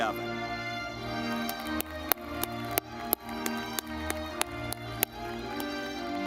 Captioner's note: audience clapping